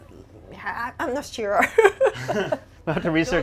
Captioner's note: laughs